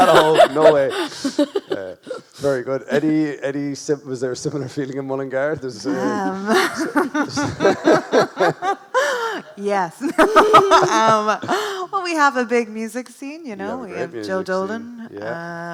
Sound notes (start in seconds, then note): 5.5 chuckles; 5.8 laughs